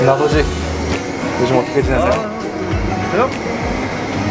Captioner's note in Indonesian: membuat bunyi orang tua